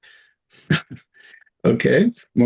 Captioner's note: chuckles